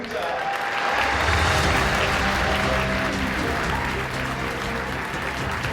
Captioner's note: applause